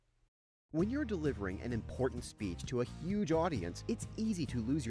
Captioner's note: voiceover